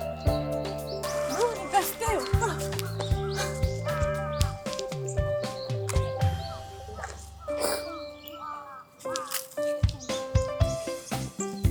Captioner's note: laughs